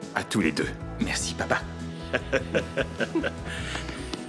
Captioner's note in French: George glousse